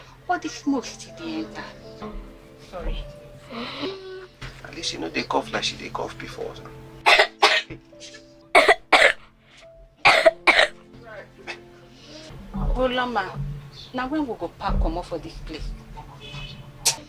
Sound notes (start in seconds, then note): 7.0 wet coughing